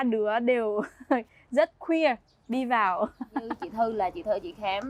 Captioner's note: laughing